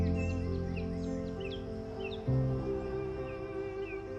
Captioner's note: birds in the distance